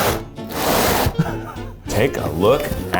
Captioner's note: laughs